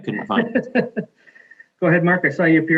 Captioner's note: laughing